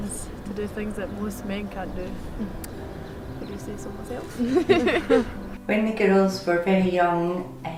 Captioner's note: laughs